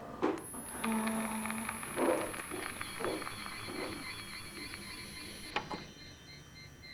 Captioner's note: static buzzing; high-pitched tone ringing; button clicks; eerie music